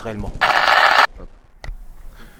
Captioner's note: tape noise